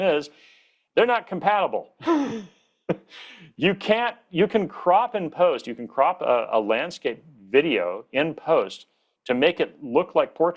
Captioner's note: chuckles